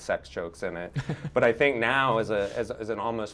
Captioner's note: chuckles